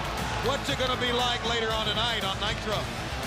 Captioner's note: crowd cheering